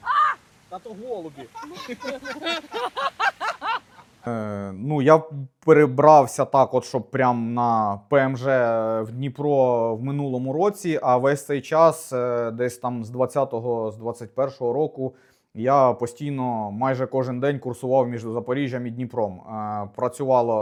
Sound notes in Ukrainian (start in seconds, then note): 1.2 сміх